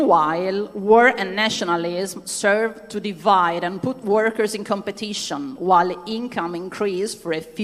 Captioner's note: speaking non-english language